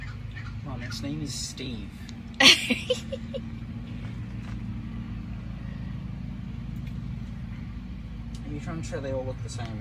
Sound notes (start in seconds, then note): 2.8 cackles